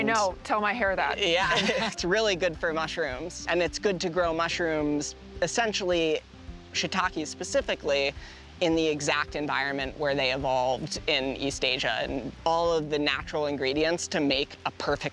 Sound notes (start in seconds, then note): 1.4 laughing